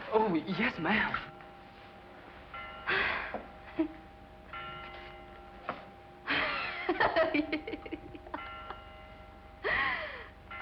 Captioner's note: sighs